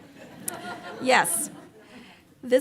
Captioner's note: audience laughs